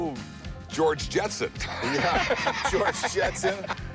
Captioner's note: laughs